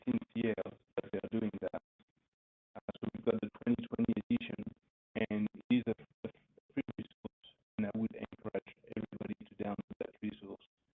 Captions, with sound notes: 2020 edition (audio blurs) resolves--